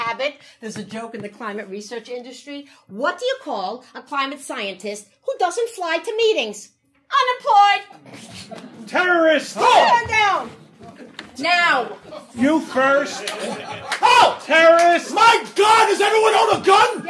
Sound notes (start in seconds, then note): 8.0 audience laughing; 9.3 all shrieking; 12.0 audience laughing